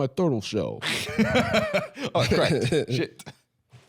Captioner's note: laughing